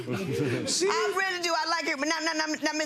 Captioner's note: audience laughing